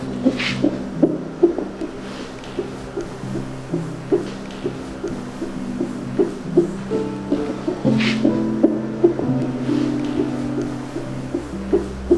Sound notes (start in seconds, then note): 0.1 heart thumping; 3.5 soft music; 5.1 heart thumping